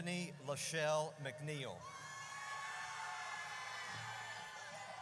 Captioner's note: audience cheers